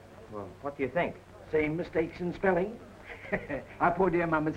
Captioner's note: chuckles